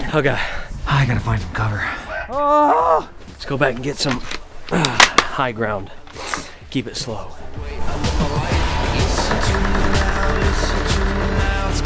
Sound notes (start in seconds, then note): 1.9 yelling; 7.5 singing